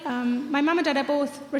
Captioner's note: none